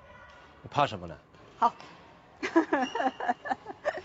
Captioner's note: laughs